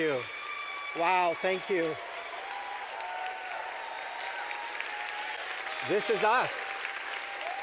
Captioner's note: clapping